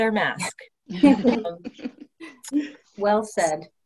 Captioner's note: laughter